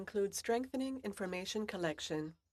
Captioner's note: speaking French